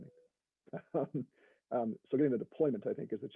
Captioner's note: laughs